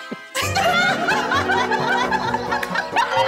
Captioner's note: laughing